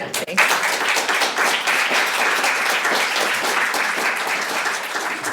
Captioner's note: applause